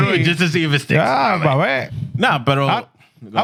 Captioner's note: speaking Spanish